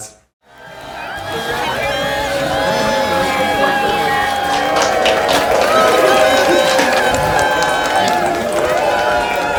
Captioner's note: cheers and applause